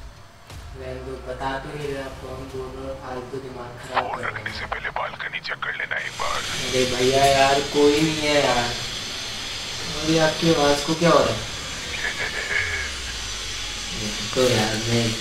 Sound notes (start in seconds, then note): 11.7 unknown laughing